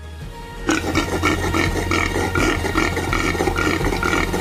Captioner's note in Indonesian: berdehem